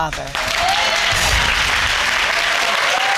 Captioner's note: audience cheering